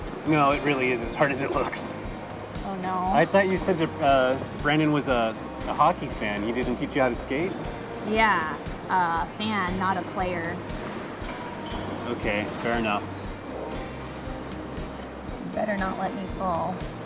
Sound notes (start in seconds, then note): none